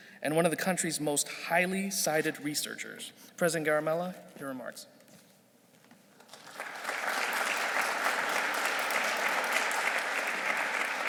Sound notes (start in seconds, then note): 5.0 shuffling; 6.2 audience clapping